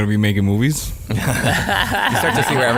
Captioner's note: laughing